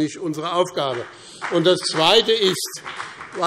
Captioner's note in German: Beifall BÜNDNIS 90/DIE GRÜNEN und Freie Demokraten